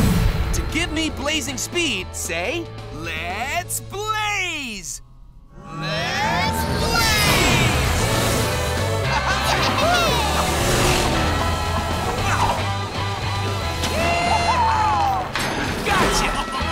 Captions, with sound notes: To give me blazing speed, say, "Let's Blaze!" Let's Blaze! [laughing] Yeehaw! Gotcha!